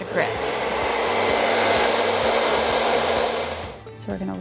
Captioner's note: blow drying running